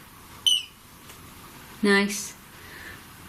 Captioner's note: beep